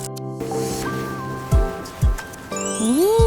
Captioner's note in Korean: 저벅저벅